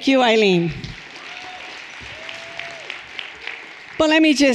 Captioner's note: everyone applauding and cheering